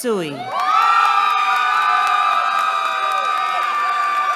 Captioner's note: cheering